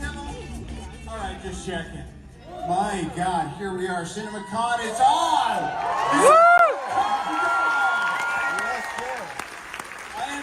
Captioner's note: cheering; applause